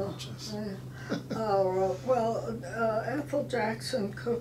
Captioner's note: laughing